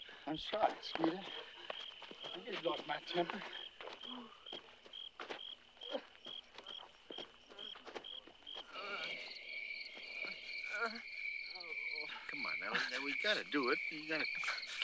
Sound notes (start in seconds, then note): 5.2 crickets chirping; 8.9 Skeeter sobbing